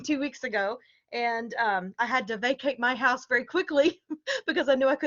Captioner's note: laughter